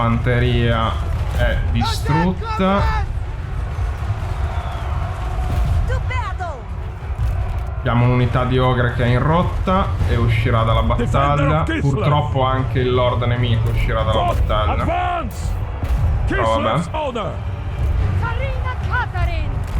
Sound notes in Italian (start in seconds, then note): 3.1 Applauso